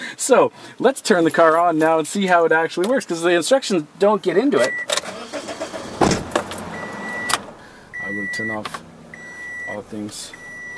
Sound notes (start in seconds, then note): 4.6 car engine starting